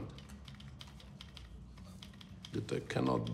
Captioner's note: none